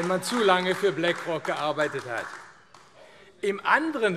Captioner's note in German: Beifall AfD